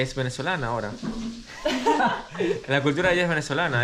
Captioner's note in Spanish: Risas